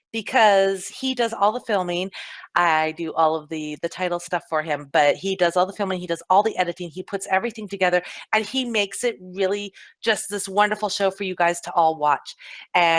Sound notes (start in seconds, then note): none